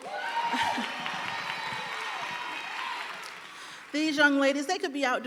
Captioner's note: audience applauding and cheering